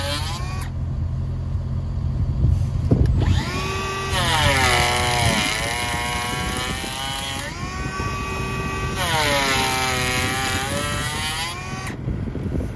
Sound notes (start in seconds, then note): 2.4 machine humming; 5.3 planer whirring